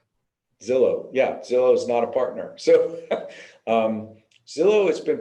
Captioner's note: laughs